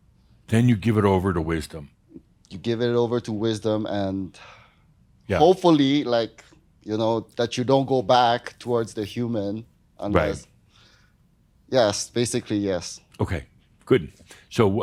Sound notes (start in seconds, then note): none